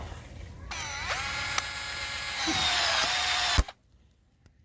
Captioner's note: electric sawing